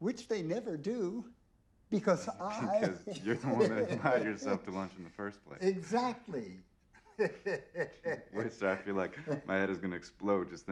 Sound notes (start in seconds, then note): 7.0 chuckles